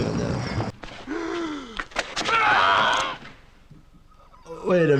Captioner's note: victim 5 gasps and screams